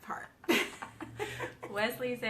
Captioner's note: both laughing